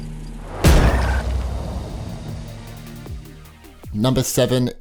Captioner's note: object thumping; tires squealing